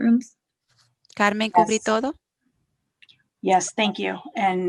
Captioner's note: speaking foreign language